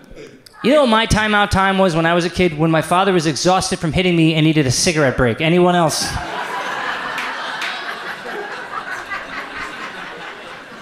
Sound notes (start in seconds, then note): 0.0 audience laughs; 6.1 audience laughs